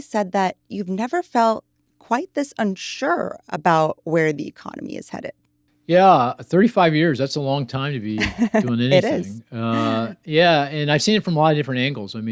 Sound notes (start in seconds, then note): 6.0 laughing